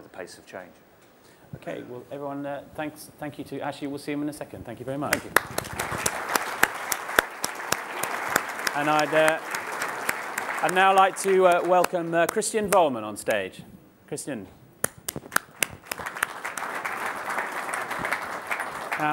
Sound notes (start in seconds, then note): 5.1 applause